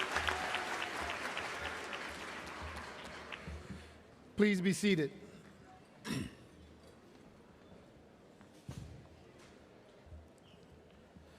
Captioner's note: cheering and applause